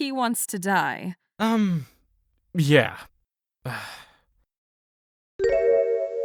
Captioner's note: sigh